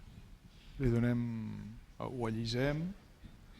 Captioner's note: speaking spanish